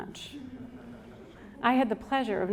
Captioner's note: audience chuckles